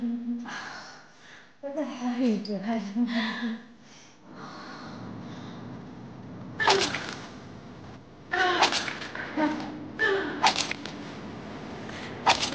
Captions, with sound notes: - What the hell are you doing? (sharp thuds) (music intensifies)